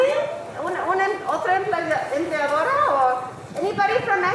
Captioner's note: speaking in foreign language